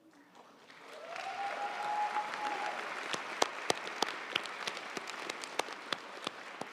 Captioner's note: audience cheering and applauding